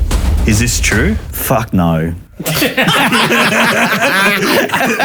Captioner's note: all laughing